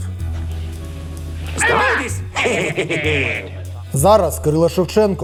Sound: giggle

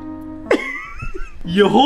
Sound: laughs

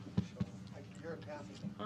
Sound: mic tap

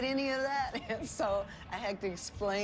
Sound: laughs

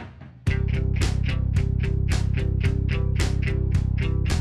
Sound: motor roaring

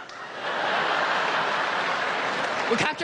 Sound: crowd laughing

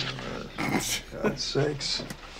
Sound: grumbles

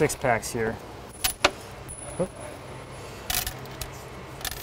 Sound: screws clattering

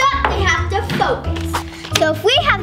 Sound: air whooshing

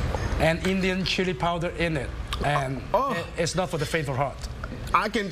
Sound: coughing

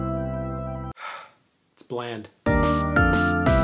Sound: upbeat music plays; sighs; upbeat music plays

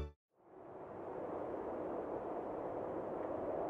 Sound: wind howling

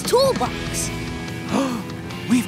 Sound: gasping

